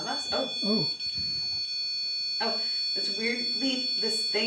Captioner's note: beeping